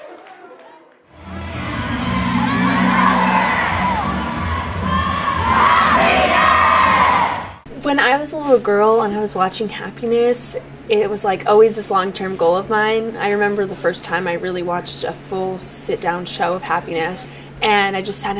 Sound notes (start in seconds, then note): 1.1 music and cheering; 6.5 cheers